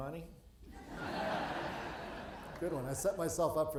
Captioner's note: audience laughing